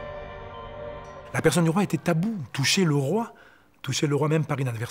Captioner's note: French spoken audio